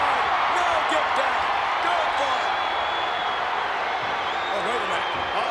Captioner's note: crowd cheering